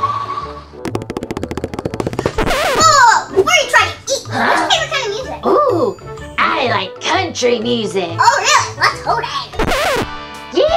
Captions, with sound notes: (quick footsteps) - Whoa, whoa, before you try to eat me, what's your favorite kind of music? - Ooh, I like country music. - Oh yeah, let's hoe down.